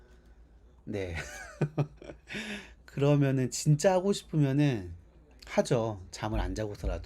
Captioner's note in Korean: 웃음